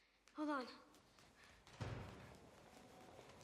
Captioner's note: door closes